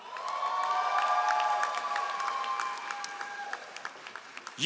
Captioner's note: all applauding